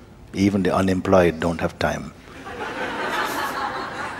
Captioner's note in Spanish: risas del público